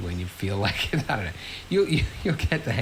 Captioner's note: laughs